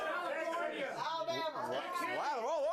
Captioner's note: audience shouts answers